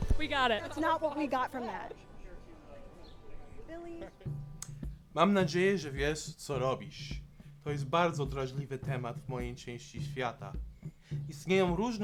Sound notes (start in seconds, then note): 4.0 guy speaking in Polish